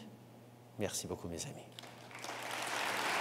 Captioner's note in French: Applaudissements